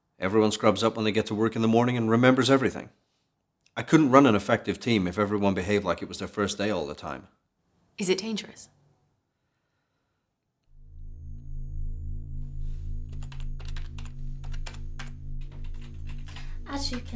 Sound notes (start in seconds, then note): 14.4 typing sounds